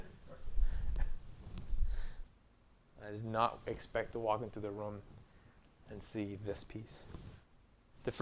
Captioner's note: laughing